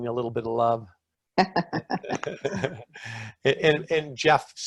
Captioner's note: laughing